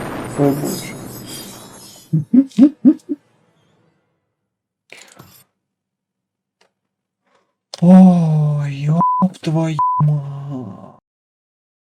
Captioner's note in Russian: истерический смех